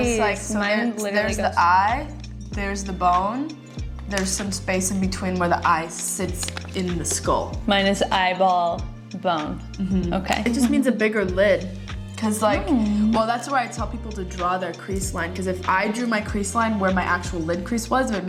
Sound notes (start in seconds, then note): none